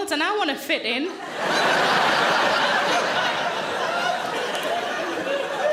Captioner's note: audience laughing